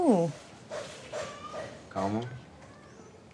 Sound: sound of Hammer In The Distance

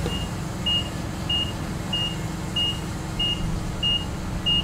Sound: forklift beeping

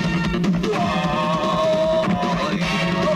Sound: groans

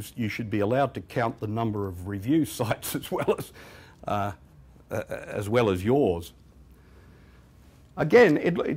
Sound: chuckles

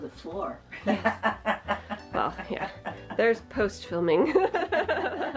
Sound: laughs

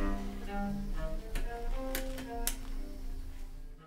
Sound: lamp clicks

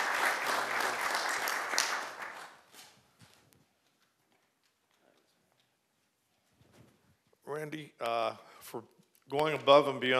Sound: applause

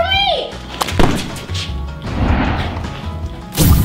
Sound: pop sound

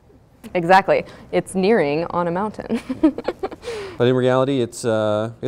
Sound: laughs

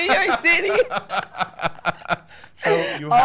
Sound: laughing

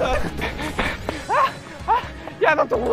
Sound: gasping

